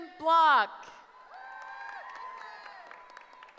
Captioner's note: cheering